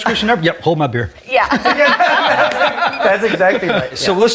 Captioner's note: laughs